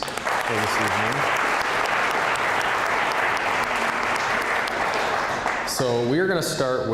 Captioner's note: applause